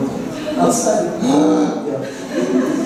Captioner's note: gasp; laughter